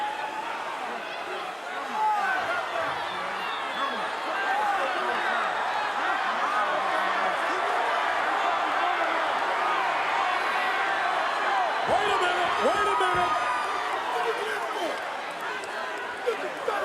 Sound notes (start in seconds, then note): 5.7 audience cheering